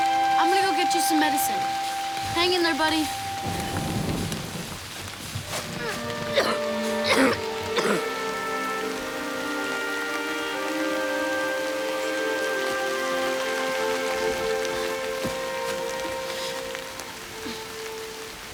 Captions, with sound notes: - I'm gonna go get you some medicine. Hang in there, buddy. (coughing) (solemn instrumental music)